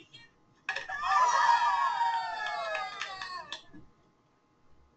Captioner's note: students cheer and clap as the ball drops into the bucket